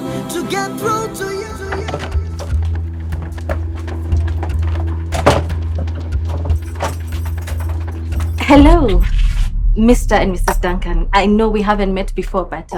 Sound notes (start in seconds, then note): 5.0 door shuts